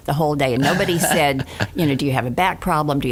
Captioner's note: laughing